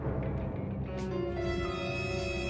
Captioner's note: quick bouncy music; menacing music; thunder rumbling